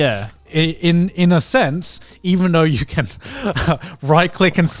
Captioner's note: chuckles